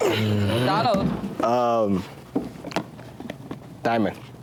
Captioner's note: hands slapping; groans